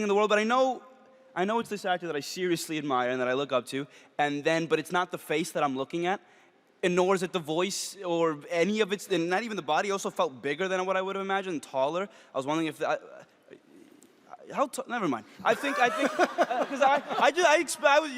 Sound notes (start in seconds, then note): 12.8 stutters; 15.5 all laugh